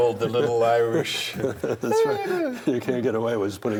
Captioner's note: laughs